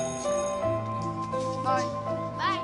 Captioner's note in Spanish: Suena el timbre del colegio